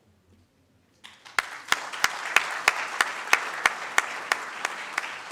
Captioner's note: audience claps